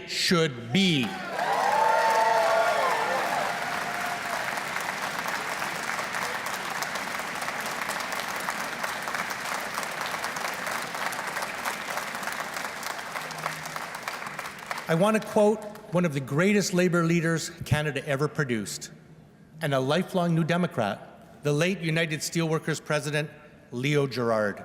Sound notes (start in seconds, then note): 4.1 cheers and Applause